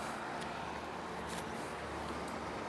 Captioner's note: traffic noise